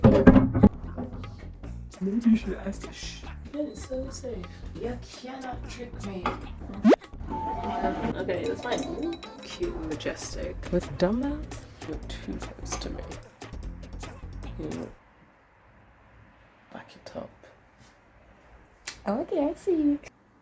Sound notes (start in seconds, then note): 2.0 mocking tone; 3.5 sarcasm